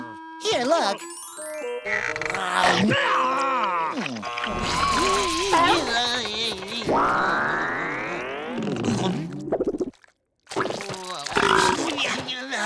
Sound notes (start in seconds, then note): 1.9 groaning; 4.6 moaning